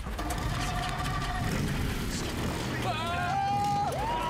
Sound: whooping and cheering

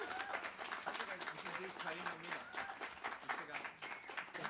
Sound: hablando en Inglés; aplausos; applause

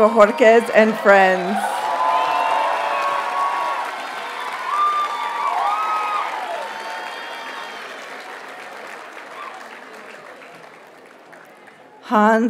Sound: audience cheers and applauds

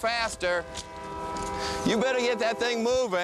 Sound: train whistle

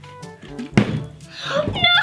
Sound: bottle landing

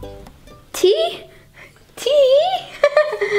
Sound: laughs

